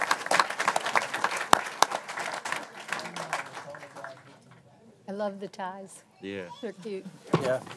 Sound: applause

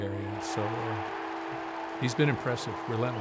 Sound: crowd cheering

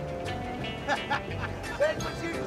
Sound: laughs

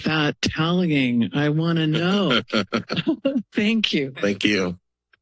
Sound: laughter

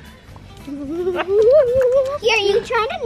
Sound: laughing; giggling

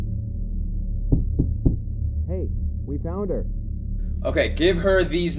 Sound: knocking

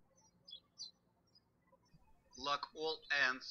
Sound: birds chirping

